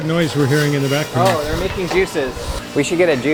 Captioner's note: juicer humming